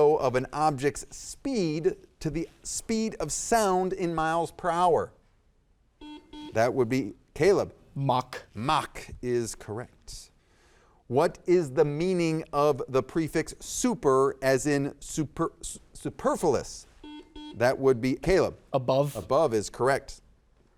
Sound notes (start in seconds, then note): 6.0 buzzer dings; 17.0 buzzer dings